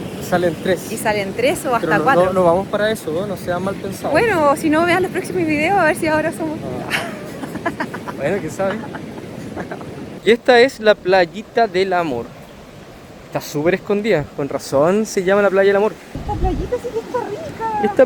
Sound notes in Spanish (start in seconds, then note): 6.8 risas